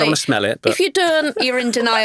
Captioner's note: laughing